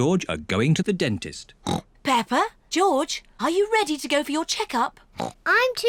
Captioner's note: oinks; oinks